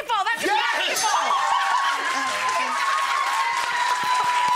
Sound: audience cheers

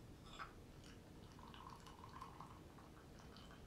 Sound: tea pouring in kitchen

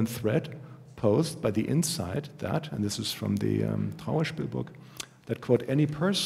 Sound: german

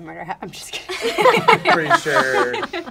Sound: laughter

